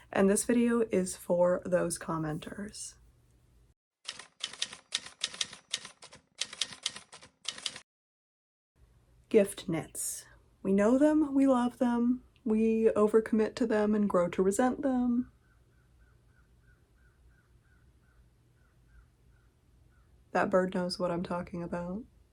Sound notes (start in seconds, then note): 15.4 cawing in the distance